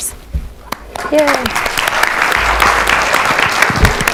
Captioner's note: applause